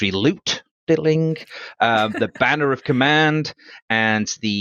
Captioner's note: makes coin clinking sound